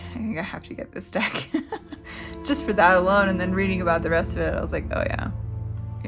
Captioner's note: laugh